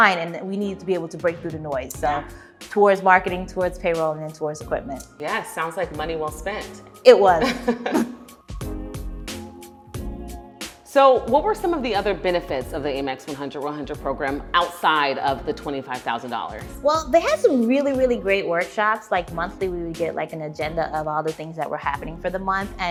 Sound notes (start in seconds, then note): 7.5 laughs; 8.5 upbeat music